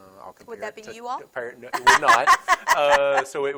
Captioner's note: laughs